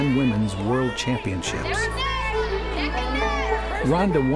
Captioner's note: cheering